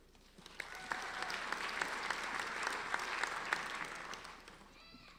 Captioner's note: applauding